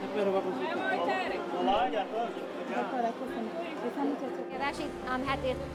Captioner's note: male Voice; speaking in Spanish